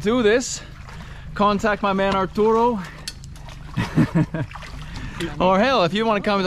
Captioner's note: laughs